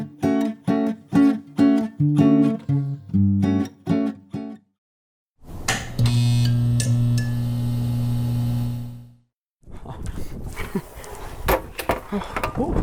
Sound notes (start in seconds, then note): 5.8 electric sounds; 10.5 laughs